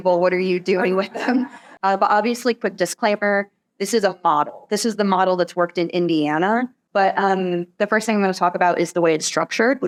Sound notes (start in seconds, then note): 0.7 laughter